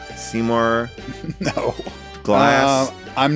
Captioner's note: laughs